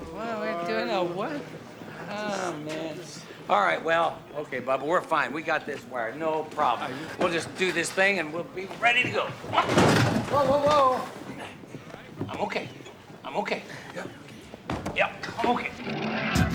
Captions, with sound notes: What are we doing? Uh, what? Oh, man. All right, well, okay, bubba, we're fine. We got this wired. No problem. Are you...? We'll just do this thing, and we'll be ready to go. (thud) LEEK: Whoa! Whoa! Whoa! I'm okay. I'm okay. Yup. Yup. I'm okay.